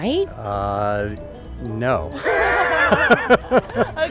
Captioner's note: laughs